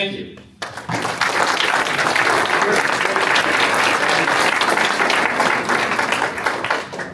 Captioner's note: applause